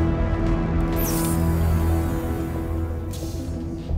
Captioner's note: door hissing; soft suspenseful music